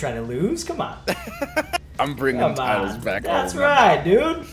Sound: laugh

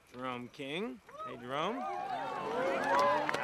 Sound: ALL WHOOPlNG

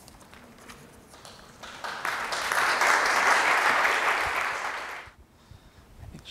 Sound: applause

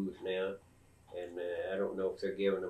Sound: laughs

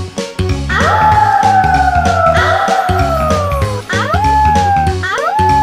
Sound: howling; howls loudly

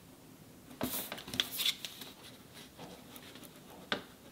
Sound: pencil scratching; paper rustling

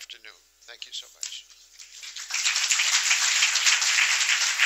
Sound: applause

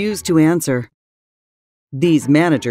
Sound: silent

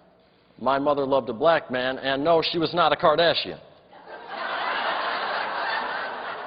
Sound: laughter

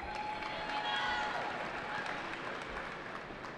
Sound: cheering

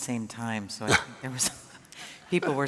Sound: panelist Laughs

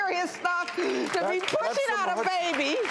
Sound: audience applauds

